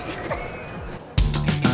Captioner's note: laughing; upbeat music